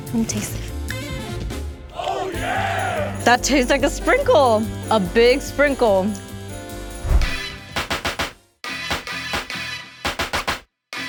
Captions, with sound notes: Let me taste. - [Crowd] Oh yeah. - That tastes like a sprinkle. A big sprinkle. (upbeat music)